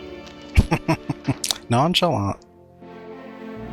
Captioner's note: laughing